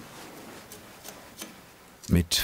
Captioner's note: scraping noises